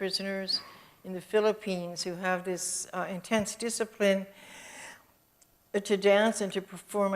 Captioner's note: inhales